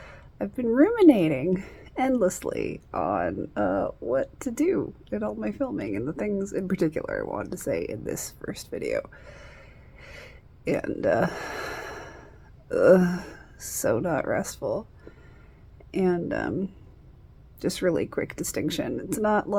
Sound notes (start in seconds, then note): 11.9 groans